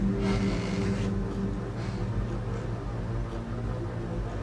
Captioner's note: floor creaking